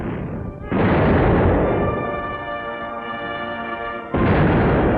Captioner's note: cannons booming